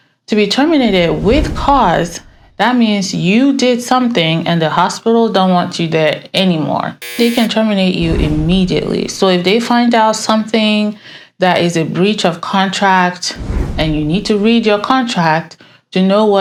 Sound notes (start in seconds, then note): 7.0 buzzer blares